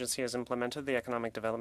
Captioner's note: speaking French